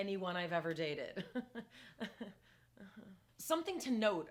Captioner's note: laughing